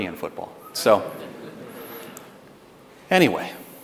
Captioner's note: audience laughs